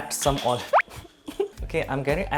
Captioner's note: laughs